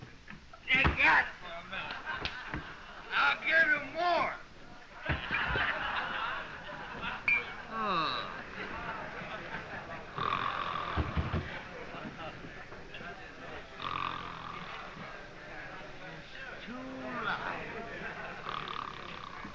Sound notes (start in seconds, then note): 5.0 all laughing; 10.1 snoring